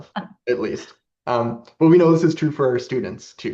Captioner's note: laughs